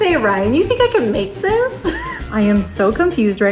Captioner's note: chuckles